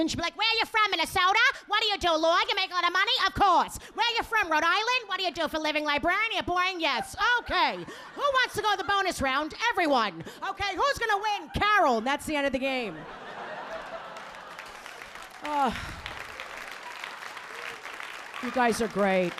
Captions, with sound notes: "Where you from, Minnesota? "What do you do, law? "You making a lot of money, of course. "Where you from, Rhode Island? "What do you do for living, librarian, yes. "Okay, who wants to go the bonus round, everyone? "Okay, who's gonna win? "Carol, that's the end of the game." (audience clapping) You guys are great.